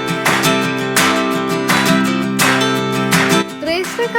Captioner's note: applause